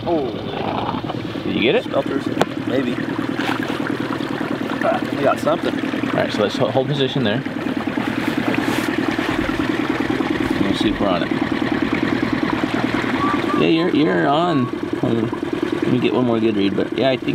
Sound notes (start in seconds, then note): 9.1 boat engine vibrating